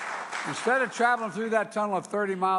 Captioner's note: applause